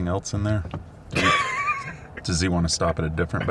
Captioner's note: laughing